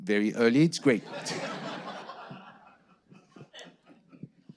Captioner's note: audience laughing